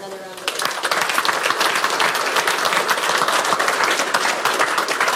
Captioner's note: audience applauding